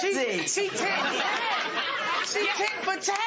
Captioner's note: laughter